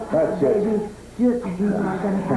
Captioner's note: crowd cheering